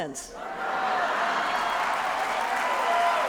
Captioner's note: laughter, loud applause